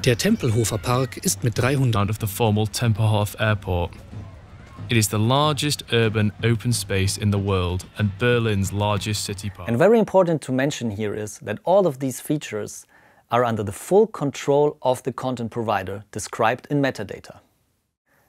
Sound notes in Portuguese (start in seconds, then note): 2.2 narração em inglês